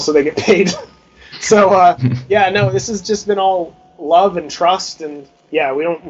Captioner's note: chuckles; interviewers chuckle; through laughter